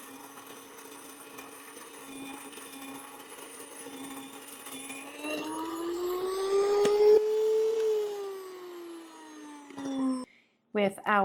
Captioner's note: machine grinding